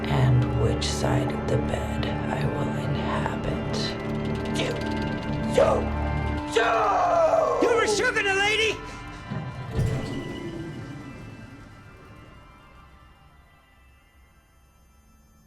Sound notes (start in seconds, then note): 10.2 vent rumbling stops